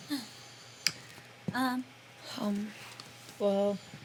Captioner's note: gasps